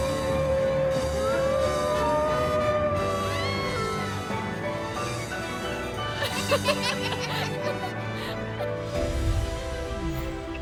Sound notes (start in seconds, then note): 0.1 howls; 3.8 screams; 6.1 laugh